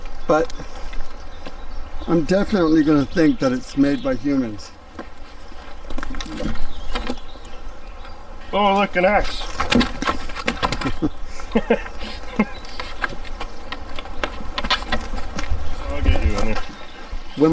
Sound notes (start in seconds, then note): 9.9 wood clonking; 10.7 both chuckling